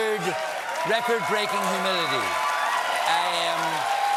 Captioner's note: cheers and applause